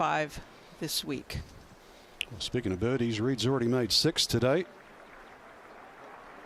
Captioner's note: applause